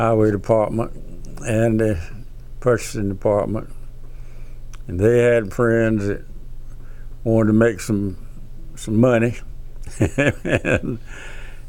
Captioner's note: laughs